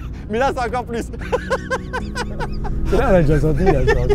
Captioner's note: laughter